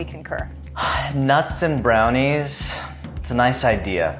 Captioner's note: sighs